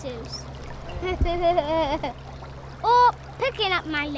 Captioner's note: laughs